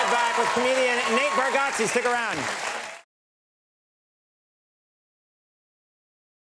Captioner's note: audience applauds